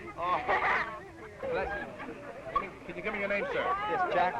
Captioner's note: laughing